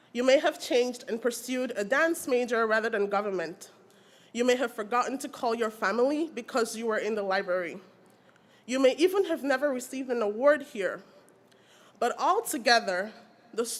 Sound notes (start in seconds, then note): none